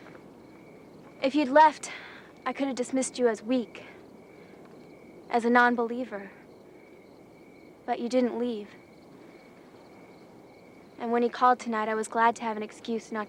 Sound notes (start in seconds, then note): none